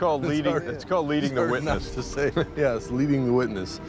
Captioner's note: laughter